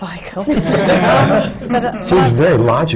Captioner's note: laughter